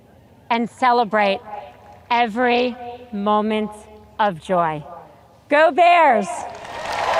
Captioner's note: audience cheers